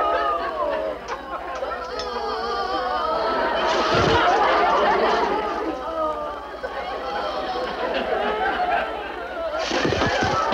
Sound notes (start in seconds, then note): 3.6 spit whooshes; 3.9 prisoners groan; 4.9 audience chuckles; 9.6 spit whooshes; 10.3 prisoners groan